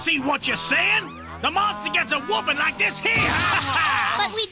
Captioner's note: punch